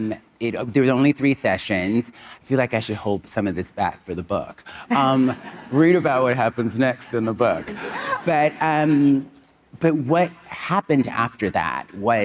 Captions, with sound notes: There was only three sessions. I feel like I should hold some of this back for the book. Read about what happens next in the book. (Monica and audience laughing) But what happened after that was,